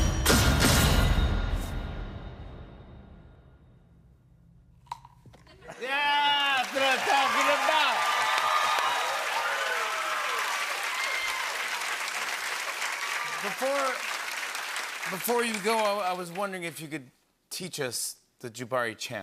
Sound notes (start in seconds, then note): 0.1 spears clanking; 4.6 Crunch; 8.1 cheers and applause